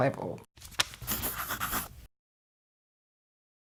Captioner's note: scratching